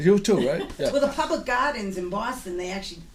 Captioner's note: voiceover